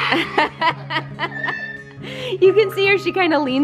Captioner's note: laughing